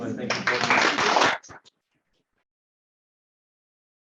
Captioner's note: applause